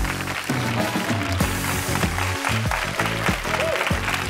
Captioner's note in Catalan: aplaudiments